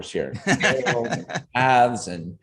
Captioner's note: all chuckling